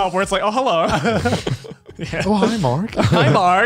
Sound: laughs

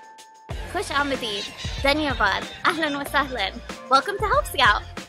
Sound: in Arabic

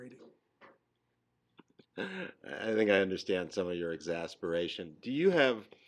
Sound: laughing

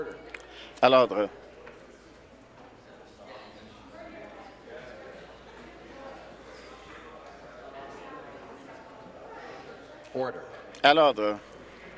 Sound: conversation din

